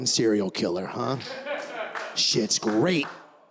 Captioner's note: laughter